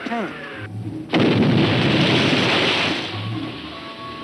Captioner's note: bomb exploding